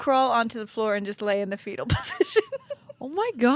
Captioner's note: laughs